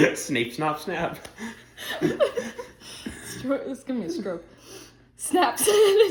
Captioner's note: laughter